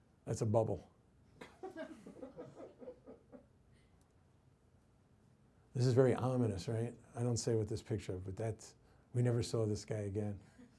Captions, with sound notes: That's a bubble. (woman laughs) This is very ominous, right? I don't say with this picture, but that's, we never saw this guy again.